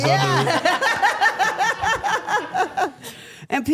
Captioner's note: everyone laughs